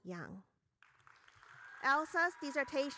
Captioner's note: audience cheering